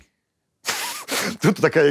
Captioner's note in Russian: смеется